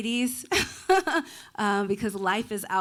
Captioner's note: laughing